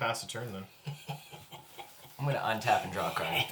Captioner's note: snickers